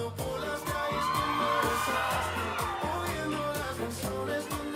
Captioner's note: audience cheering